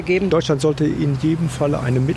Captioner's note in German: männliche Stimme